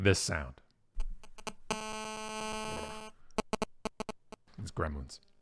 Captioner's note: static crackles